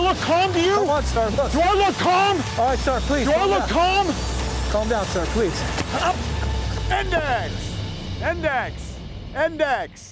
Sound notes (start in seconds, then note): 5.8 gun shot; 9.8 electronic music